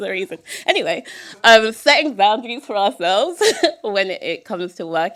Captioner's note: chuckle